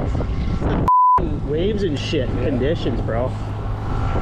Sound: beep

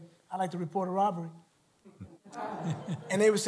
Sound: laughter

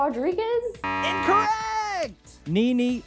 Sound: buzzer beeps

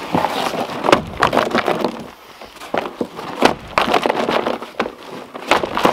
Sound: plastic bin thudding and rattling

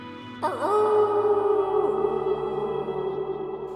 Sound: distant howling

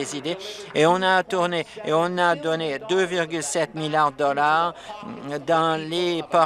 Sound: applause

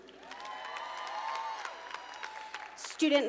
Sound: audience cheering

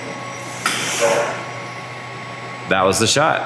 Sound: hydraulics hissing

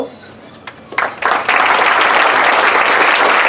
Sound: applause

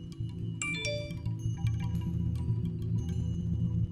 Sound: phone dings

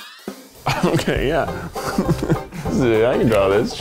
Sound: laughing

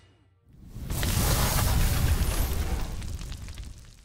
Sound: crackling

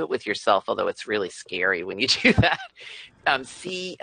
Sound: chuckles

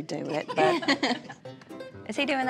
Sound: everyone laughing

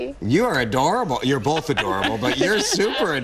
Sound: laughing

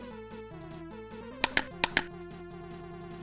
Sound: click

